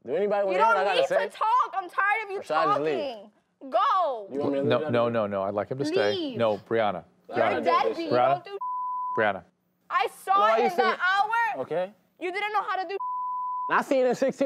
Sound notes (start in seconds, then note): 8.6 beep; 13.0 beep